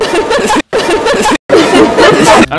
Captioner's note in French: la fille rigole